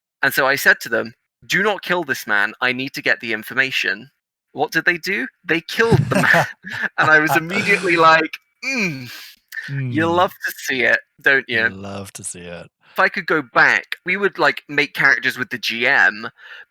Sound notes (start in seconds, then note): 5.8 laughing; 5.8 groans; 9.3 sarcastically